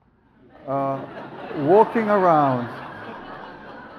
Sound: audience laughs

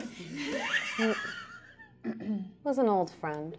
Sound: laughs

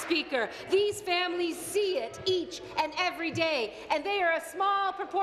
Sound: applause

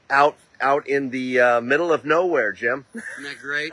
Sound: laughing

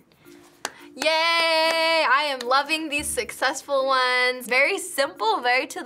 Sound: claps

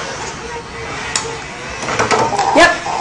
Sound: clattering

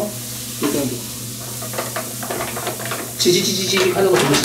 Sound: bubbling

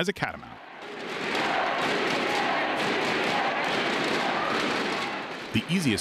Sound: crowd chanting; objects banging

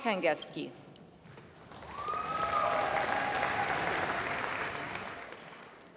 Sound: applause

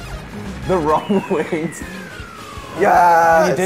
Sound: chuckles

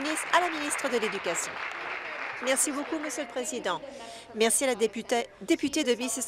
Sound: applause

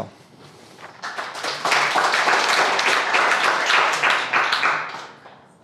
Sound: crowd applauding

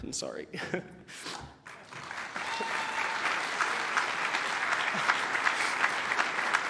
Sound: applause

